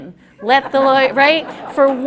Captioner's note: laughter